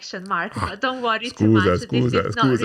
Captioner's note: laughing